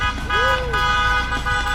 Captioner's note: honks